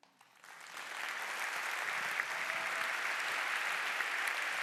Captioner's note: applause